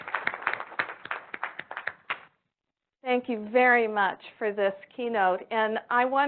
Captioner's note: applause